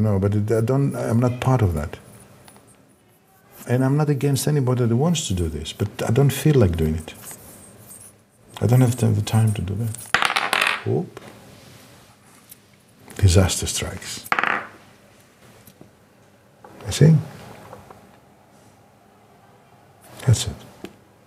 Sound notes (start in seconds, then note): 10.1 ball clacking; 14.3 ball clacking